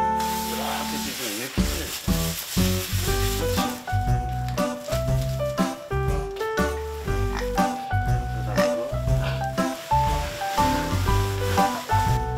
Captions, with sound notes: This time (Rips newspaper) Perfect training for pigs that have a great sense of smell A newspaper nosework